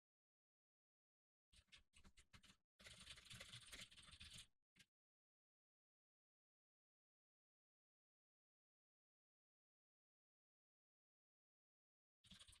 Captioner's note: typing sounds